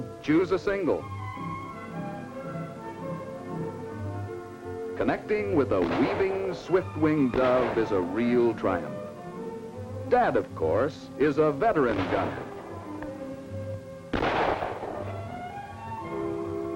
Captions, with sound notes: Connecting with a weaving swift winged dove is a real triumph. Dad, of course, is a veteran gunner. (gunshots)